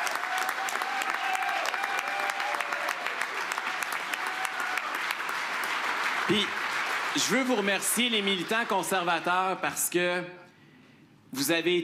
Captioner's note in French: applaudissements